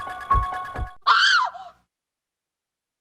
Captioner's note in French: cri